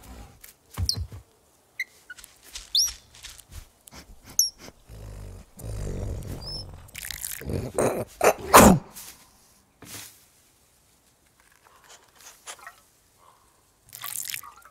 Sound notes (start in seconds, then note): 2.1 grass rustling; 3.8 sniffing; 4.6 growling; 6.7 water trickling; 7.4 sneezing